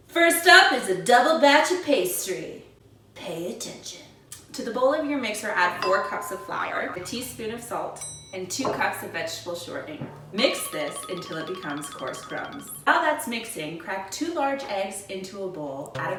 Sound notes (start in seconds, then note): none